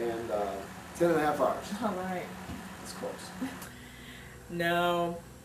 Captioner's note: chuckles